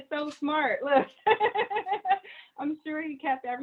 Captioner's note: laughing